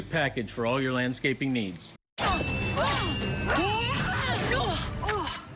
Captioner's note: swords clashing